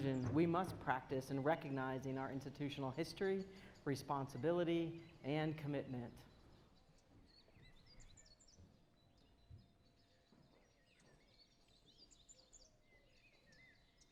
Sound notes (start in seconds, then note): 6.9 birds chirping